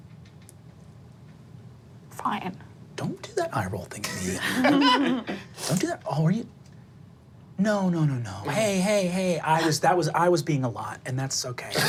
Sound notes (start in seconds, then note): 4.2 group laughing